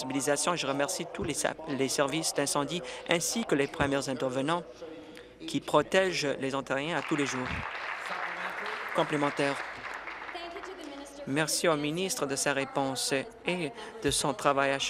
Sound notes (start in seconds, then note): 11.6 applause